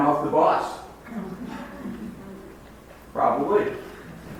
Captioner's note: audience laughs